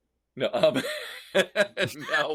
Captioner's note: laughing